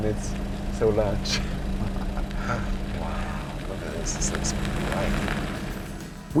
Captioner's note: laughs